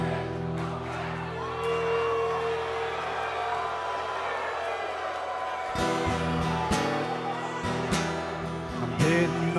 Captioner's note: crowd cheering